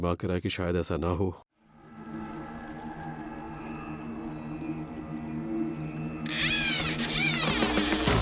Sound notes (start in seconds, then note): 4.7 rod whirrs